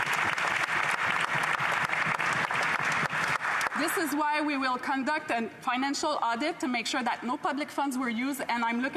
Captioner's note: applause